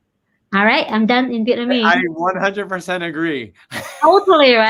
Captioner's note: chuckles